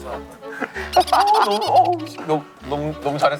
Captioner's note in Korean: 웃음